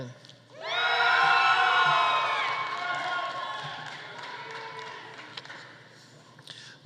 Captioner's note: audience cheering; audience applauding